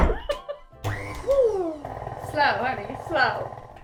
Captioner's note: laughter; mixer whirring